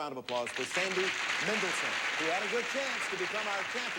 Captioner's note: audience applauding